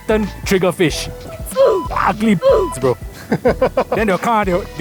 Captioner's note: beep